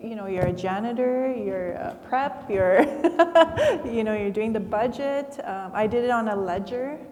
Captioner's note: laughs